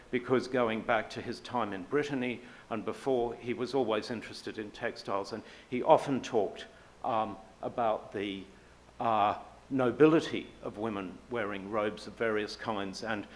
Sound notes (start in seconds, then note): none